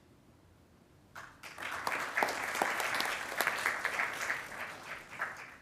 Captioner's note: attendees applauding